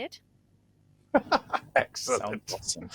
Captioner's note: laughs